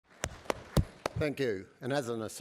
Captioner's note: applause